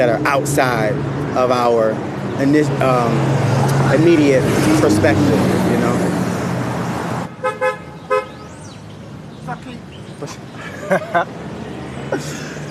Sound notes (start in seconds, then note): 7.3 car honking; 10.6 laughter